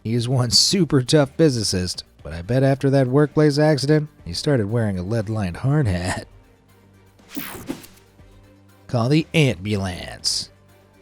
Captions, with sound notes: He is one super tough physicist, but I bet after that workplace accident, he started wearing a lead-lined hard hat. (bright music) (air whooshes) Call The Ant-bulance.